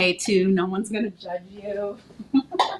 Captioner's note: chuckling